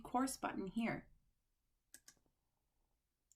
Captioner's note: click